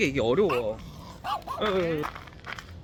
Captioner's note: dog barking... woof woof